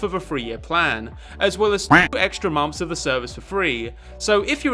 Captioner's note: quack